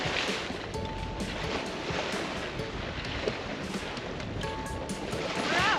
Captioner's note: wind